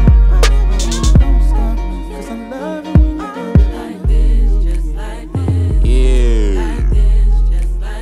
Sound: vocalizing

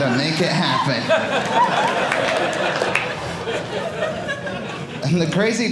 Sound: audience laughing

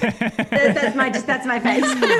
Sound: laugh; laughs

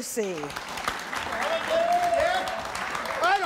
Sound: audience applauds

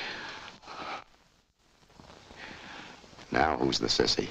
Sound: Ann shudders

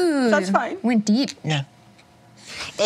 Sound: imitates German accent

